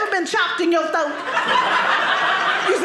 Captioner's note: audience laughing